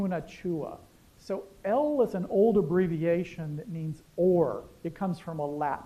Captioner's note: non-english